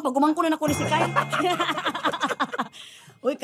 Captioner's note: both laughing